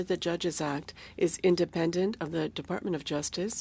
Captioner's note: speaking French